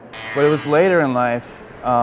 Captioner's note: motorcycle